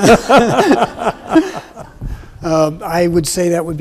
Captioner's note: everyone laughs